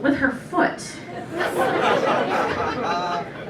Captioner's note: laughter